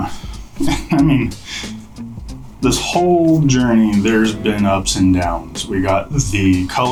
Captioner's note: chuckles